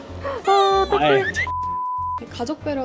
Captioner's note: beep - Sound effect